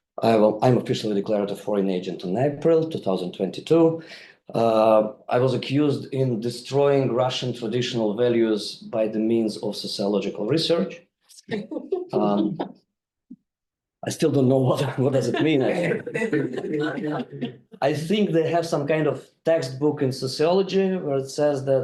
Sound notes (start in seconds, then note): 12.2 audience member laughs; 14.7 group laughing